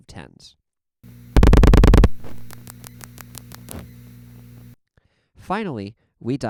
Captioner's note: 7 loud clicks, thhip, 8 quiet clicks, thhip